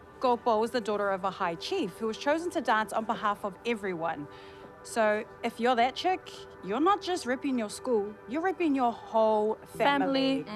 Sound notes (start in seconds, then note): none